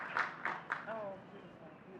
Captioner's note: faintly speaking